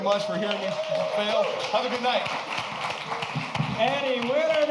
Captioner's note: cheers and applause